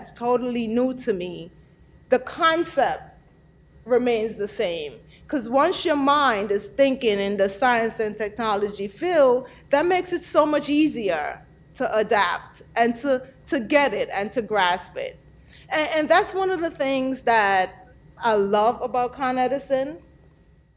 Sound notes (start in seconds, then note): none